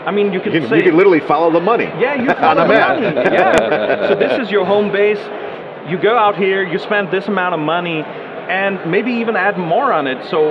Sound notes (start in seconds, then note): 2.1 laughing